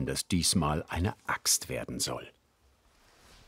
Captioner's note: none